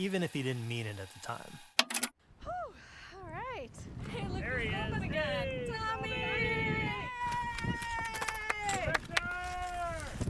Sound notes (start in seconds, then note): 1.4 button clicks